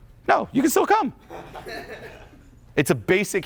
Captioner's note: audience laughing